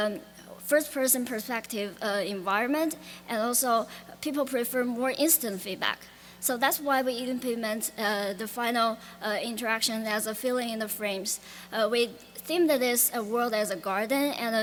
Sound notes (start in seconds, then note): none